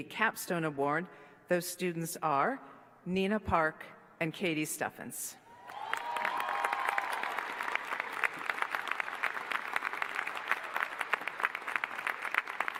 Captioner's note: applause